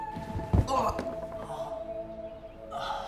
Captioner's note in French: bruit sourd